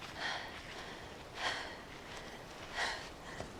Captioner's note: panting